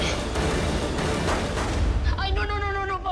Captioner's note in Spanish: Disparos